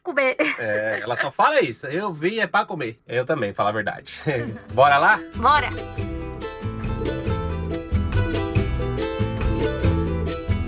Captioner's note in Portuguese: risadas